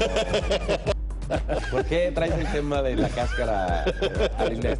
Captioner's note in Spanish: risas